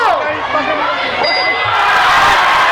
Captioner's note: dinging; crowd cheering